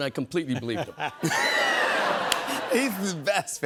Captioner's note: laughter